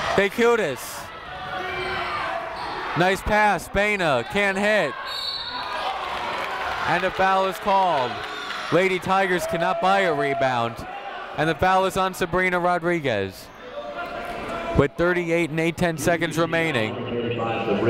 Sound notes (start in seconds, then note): 1.0 people shouting in the crowd; 5.0 whistle tweeting